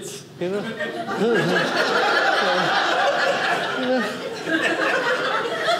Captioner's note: audience laughing